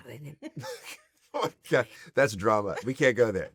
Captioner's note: laugh